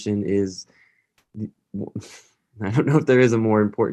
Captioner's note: laughter